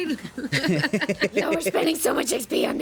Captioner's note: everyone laughs